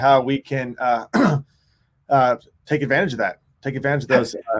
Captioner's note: clears throat